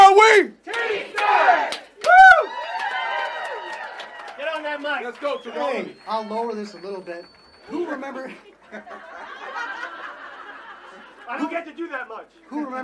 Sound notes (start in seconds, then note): 5.9 applause; 12.1 laughter